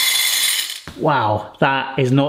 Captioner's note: beads whirring